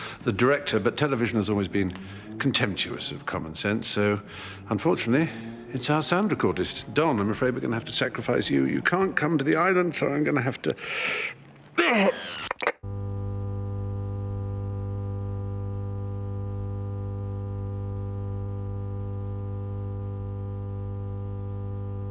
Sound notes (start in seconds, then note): 11.8 Stephen groans; 13.4 audio humming